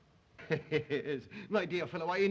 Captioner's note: Zaroff chuckles